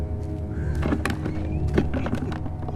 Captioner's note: barrels knocking